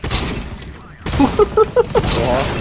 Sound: laugh

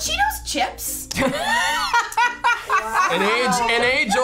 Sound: laughs

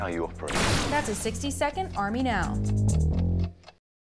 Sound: clock ticking; bass guitar playing

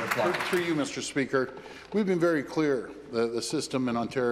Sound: some Applause

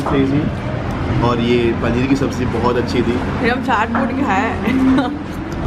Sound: giggles

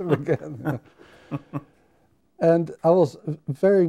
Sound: men laughing

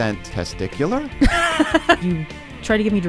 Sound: laughter

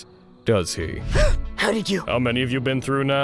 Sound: gasp

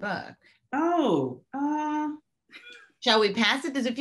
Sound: chuckling

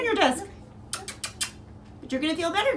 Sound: kissing sound

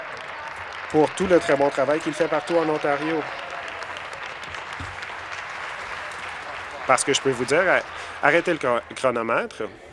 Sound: applause

